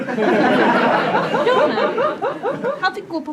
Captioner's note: laughter